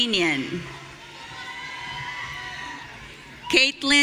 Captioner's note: audience cheering